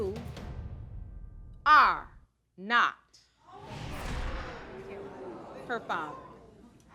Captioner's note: audience gasps